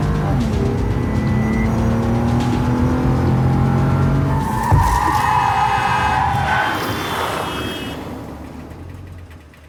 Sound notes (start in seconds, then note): 4.2 tyres screeching; 4.5 honking